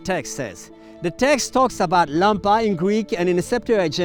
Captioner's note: speaking in foreign language